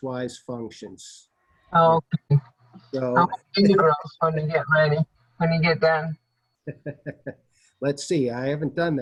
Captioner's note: laughter